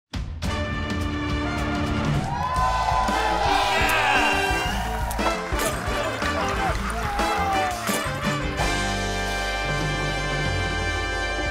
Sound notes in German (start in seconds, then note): 0.0 Spannungsvolle Musik; 2.5 Jubel; 8.4 Erwartungsvolle Musik